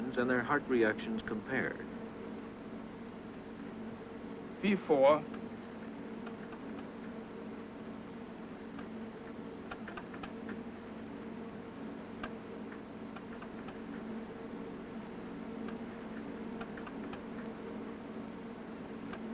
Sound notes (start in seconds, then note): 1.6 machines hum; 5.3 machine hum, ticking and pulsing